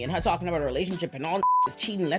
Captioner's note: beep